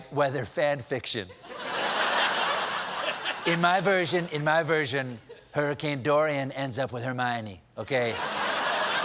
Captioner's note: laughter